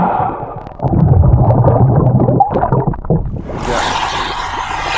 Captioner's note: water bubbling